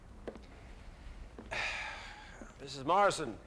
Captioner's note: exhales